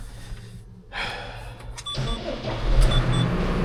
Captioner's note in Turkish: iç çeker